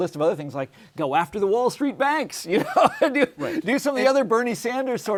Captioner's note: laughs